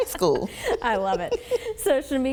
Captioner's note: chuckling